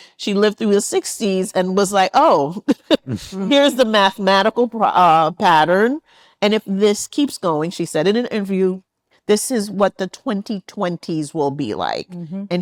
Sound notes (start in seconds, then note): 2.9 laughs